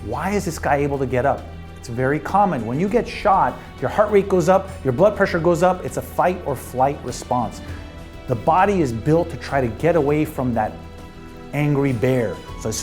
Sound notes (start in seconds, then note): none